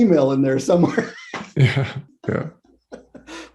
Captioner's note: laughs